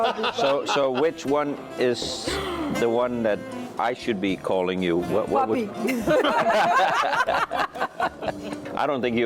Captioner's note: laughter